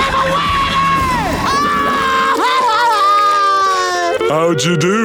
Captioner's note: crying